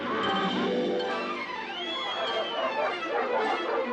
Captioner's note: whistling; barking